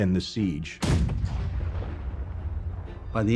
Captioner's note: cannon firing